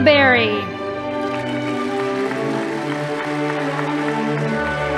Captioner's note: audience applauding